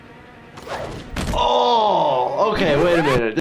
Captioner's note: gasps; woman screams; thuds